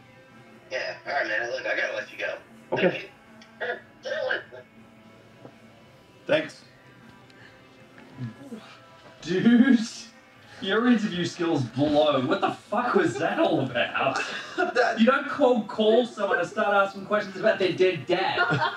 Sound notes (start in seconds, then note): 3.7 shouting on other end of the phone; 4.9 on phone; 18.3 everyone laughs